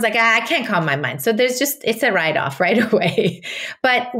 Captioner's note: laughs